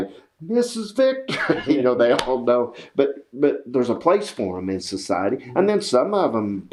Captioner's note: laughs